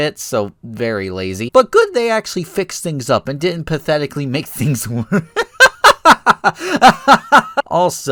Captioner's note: laugh